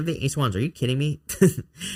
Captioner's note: laughs